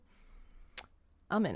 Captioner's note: tongue Click